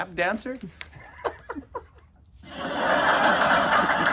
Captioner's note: both laugh; recorded laughter and applause